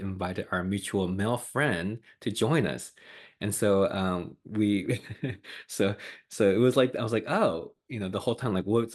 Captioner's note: laughs